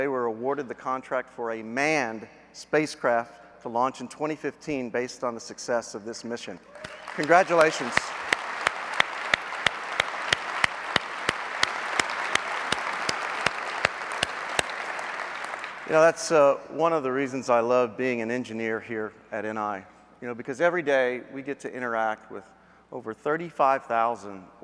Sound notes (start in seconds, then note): 6.7 applause